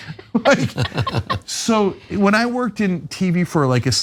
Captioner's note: laugh